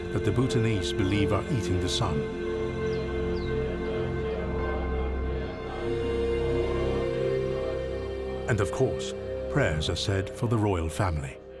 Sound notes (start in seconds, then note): 3.5 dramatic tense music; 3.5 Bhutanese people praying